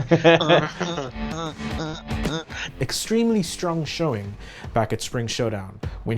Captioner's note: laughing